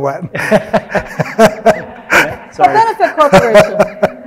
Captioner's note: all laughing